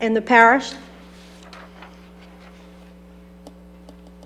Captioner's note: page turning